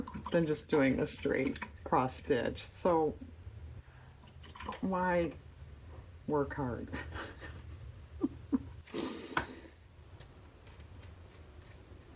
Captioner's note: laughs